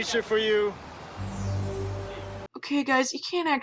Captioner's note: possibly racist chimes